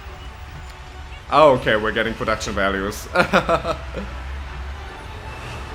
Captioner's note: laughs